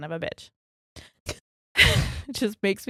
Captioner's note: chuckles